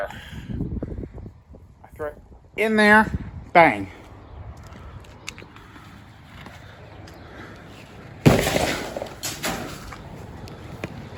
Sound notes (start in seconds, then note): none